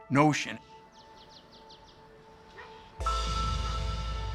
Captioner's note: birds chirping